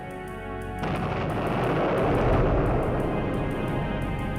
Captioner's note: bomb exploding